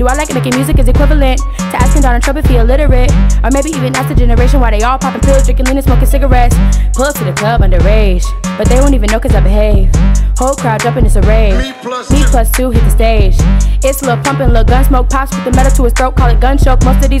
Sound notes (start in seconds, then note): 10.9 Steve Harvey Voice